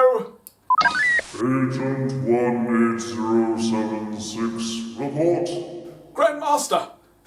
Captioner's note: beeping; Delgatoan on speaker